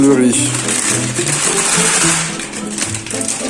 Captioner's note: sound of bag being mistreated